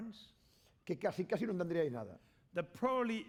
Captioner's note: speaking spanish